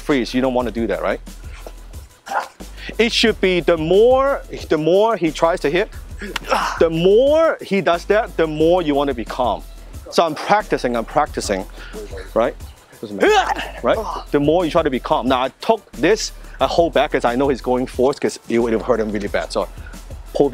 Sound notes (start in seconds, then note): 13.2 grunts